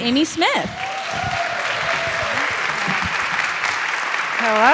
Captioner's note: cheers and applause